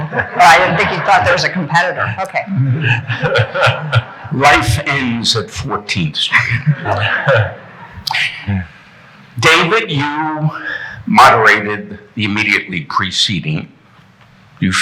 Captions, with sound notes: - Oh, I didn't think you thought there was a competitor. Okay. (laughing) - Life ends at 14th street. David, you moderated the immediately preceding.